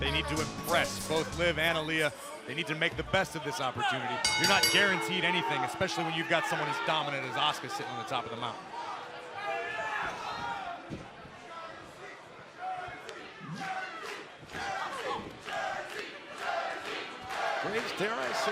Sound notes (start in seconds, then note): 4.2 bell ringing; 14.4 fans chanting